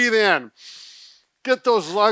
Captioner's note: gasping